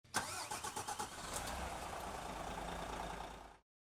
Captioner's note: car engine roaring